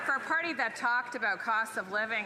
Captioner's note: applause